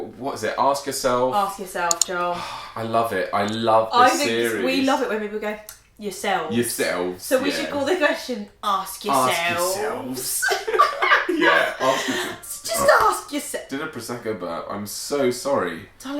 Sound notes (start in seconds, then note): 1.8 mouse clicking; 5.6 lips smacking; 10.2 laughter; 13.5 burping